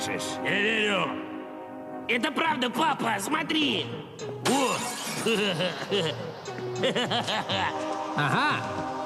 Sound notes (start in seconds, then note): 5.6 moaning